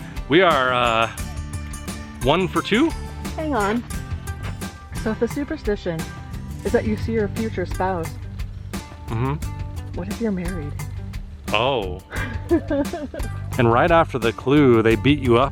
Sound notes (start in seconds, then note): 12.1 laughter